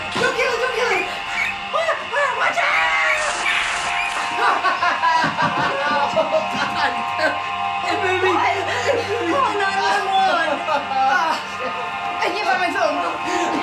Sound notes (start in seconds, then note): 0.9 Gina shrieking; 4.6 Billy crying